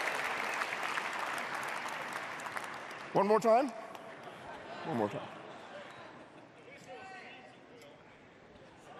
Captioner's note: cheers and applause; laughter